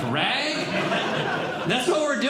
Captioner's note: audience Laughing